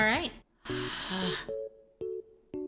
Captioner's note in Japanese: ため息